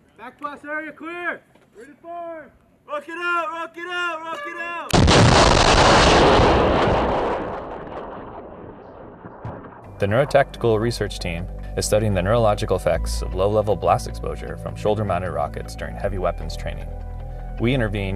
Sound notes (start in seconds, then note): 8.7 rocket exploding